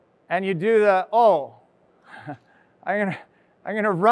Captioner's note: chuckles